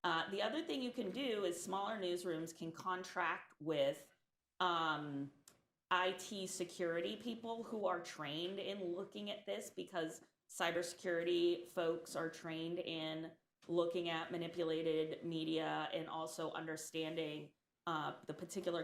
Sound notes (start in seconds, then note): none